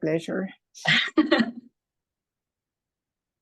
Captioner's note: laughter